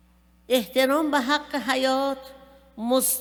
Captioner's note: speaking persian